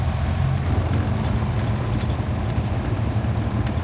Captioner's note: engine revving